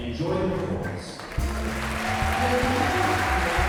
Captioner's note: applause